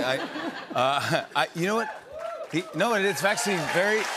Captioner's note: cheers and applause